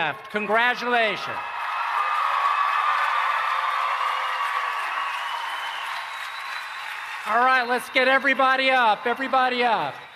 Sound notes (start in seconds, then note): 1.6 applause and Cheering